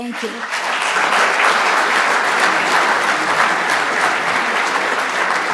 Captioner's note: audience applauding